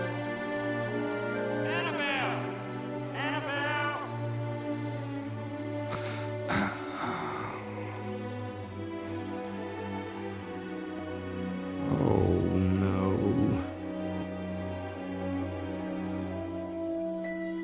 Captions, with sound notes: ANNABELLE! ANNABELLE! [SIGHING] OH, NO. [SLEIGH BELLS RING]